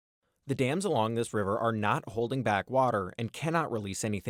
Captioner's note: voice-over